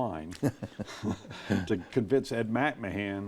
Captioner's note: chuckle